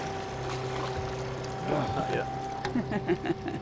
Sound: fish splashing; trolling motor humming

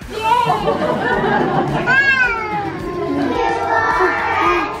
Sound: crowd chatters

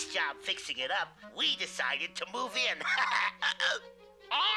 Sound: laughs

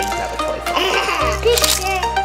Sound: cackles; camera clicks

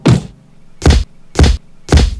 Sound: paf; smack; smack

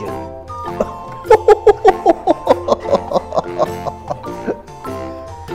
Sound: laughs

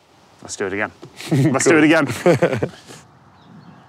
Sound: laughs

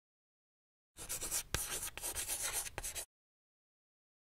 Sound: chalk scratching

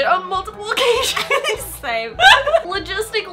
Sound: both laughing

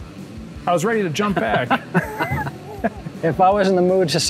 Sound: laughs

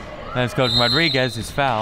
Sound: whistle

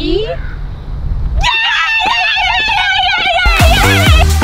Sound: cheering

